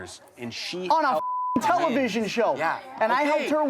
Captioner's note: beep